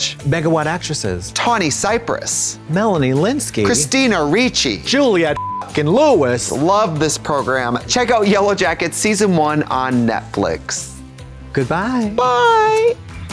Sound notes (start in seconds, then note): 5.3 beep